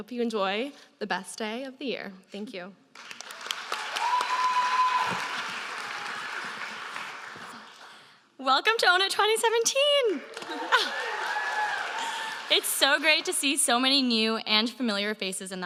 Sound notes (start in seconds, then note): 2.9 applause